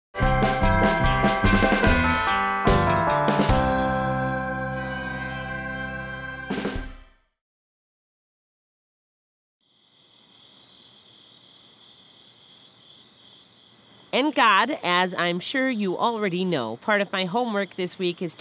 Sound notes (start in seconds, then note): 9.6 crickets chirping